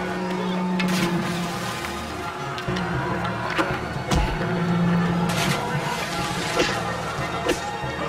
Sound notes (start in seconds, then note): 0.9 splash; 5.2 splash